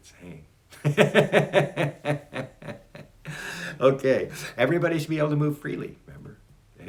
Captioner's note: laughs